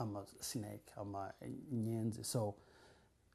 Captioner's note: non-english